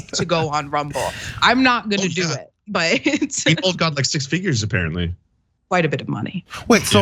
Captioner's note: laugh